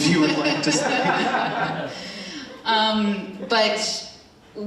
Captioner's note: attendees laughing